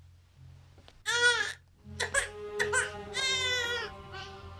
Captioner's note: baby cries